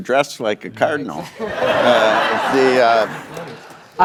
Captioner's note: laughter